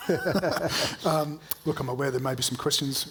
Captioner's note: both chuckling